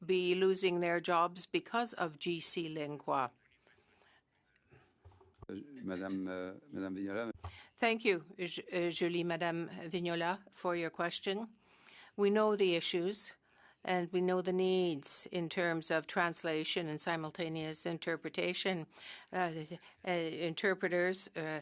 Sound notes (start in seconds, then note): 9.6 speaking French